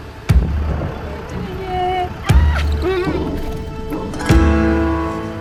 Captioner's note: drum beating; speaker squeals; melodic music